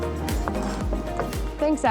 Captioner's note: upbeat music; knife scraping